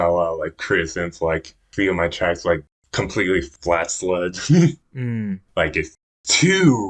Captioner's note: laughs